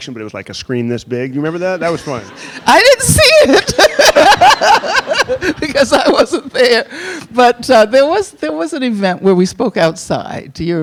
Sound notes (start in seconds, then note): 3.2 laughs; 3.2 audience laughing